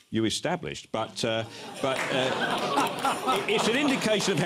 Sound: gasping and applause

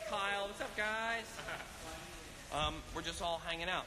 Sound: actor laughs

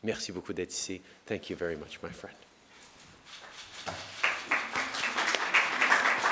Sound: applause

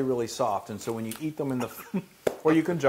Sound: laugh

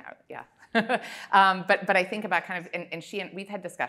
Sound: laughs

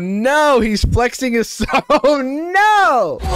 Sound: chuckles

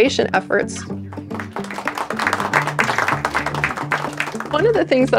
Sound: clapping

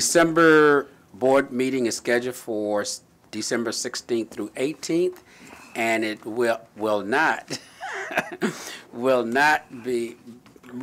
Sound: chuckle

